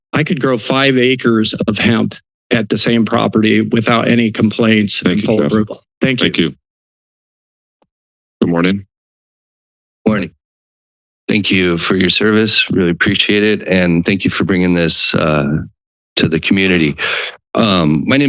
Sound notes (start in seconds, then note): 7.0 silence